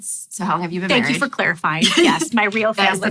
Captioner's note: laughs